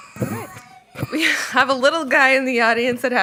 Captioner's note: crying